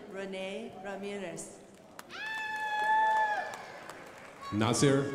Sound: crowd applauding

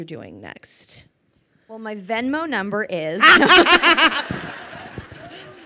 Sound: laughing

